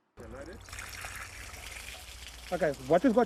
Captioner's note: water splashing